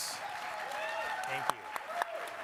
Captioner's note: crowd cheering